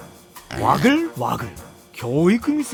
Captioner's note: bustling